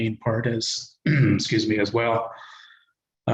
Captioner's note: coughs